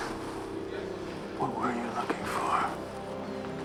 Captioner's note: whispering